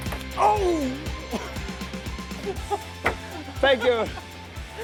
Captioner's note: laughs